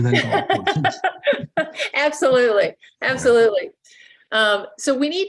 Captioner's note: laughs